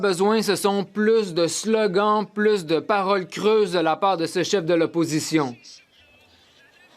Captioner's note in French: voix de l'interprète